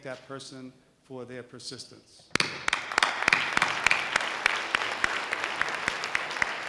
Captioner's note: audience applause